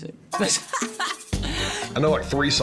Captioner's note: laughs